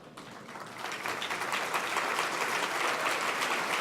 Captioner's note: applause